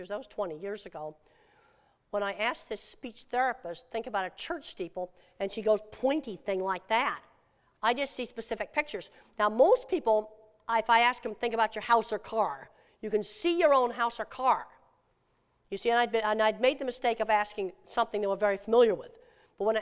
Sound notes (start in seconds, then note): none